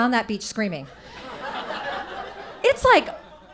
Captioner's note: audience laughing